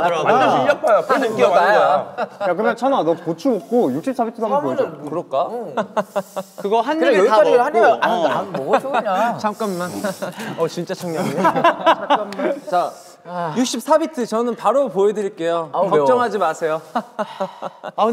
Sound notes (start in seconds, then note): 5.7 awkward laughter; 11.5 group laughter